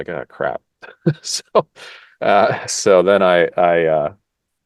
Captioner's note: laugh